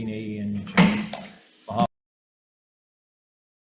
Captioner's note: gavel bangs